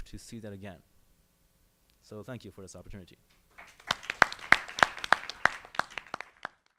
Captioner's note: applause